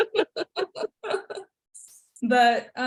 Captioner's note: laughter